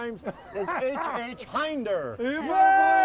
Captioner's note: crowd cheering